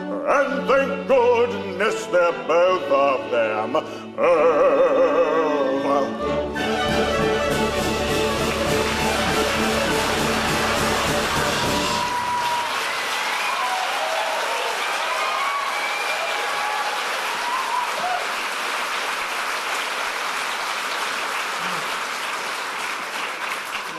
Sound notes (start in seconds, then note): 8.5 applause, cheering